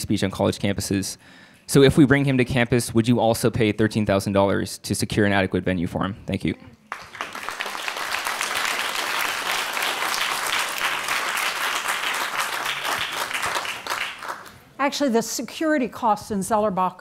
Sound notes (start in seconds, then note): 6.8 audience applauding